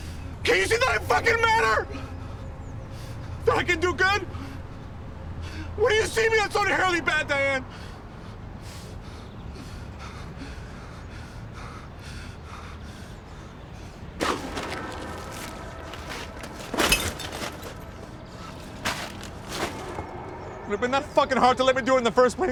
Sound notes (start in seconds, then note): 8.0 gasping; 14.0 groceries clattering; 15.8 glass clinking